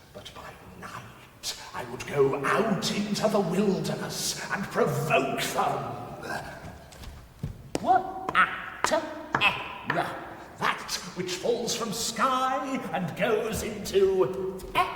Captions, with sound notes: But by night, I would go out into the wilderness and provoke them. (Creature stammering) (Bone tapping) That which falls from sky and goes into.